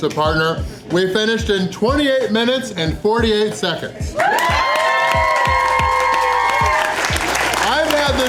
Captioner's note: crowd clapping and cheering